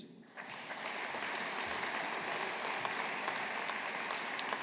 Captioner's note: audience applauding